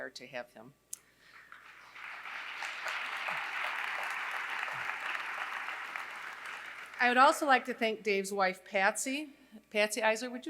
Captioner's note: applause